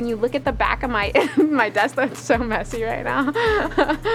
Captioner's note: laughs